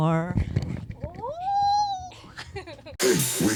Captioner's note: happy Noises